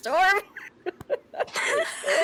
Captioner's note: laughter